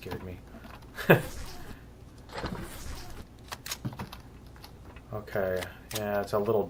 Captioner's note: footsteps; laughs; weapons click